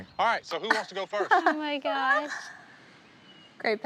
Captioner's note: group laughing